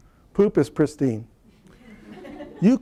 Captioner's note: laughter